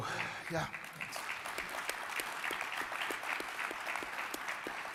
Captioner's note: crowd applauding